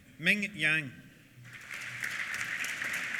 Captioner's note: applause